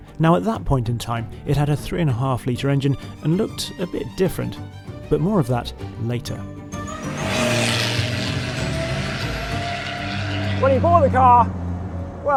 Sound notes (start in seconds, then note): 6.6 car engine roaring; 7.1 bright music